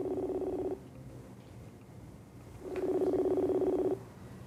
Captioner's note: phone ringing